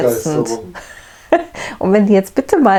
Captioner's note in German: lacht